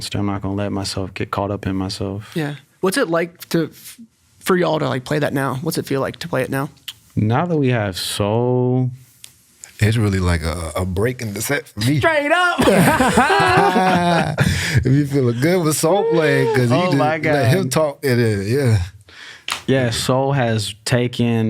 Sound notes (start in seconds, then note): 12.5 laughs